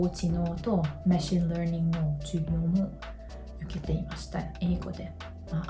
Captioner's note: all in English